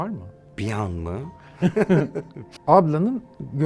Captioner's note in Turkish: Gülüyorlar